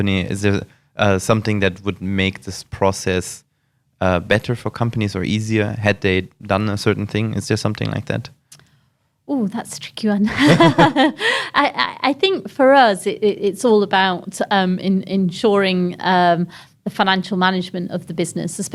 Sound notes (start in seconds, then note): 10.3 laughs